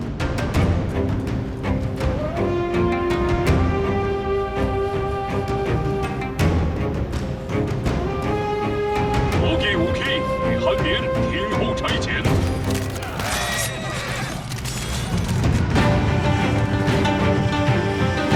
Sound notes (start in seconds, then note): 9.3 chinese language; 15.7 fast-paced music playing